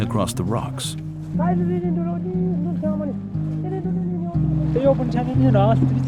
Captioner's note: speaking foreign language